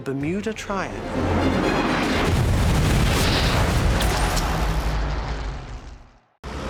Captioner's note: dramatic music; whooshing sounds